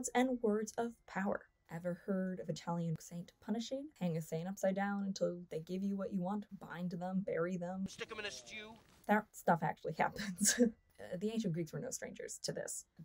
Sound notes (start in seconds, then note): 10.7 laughs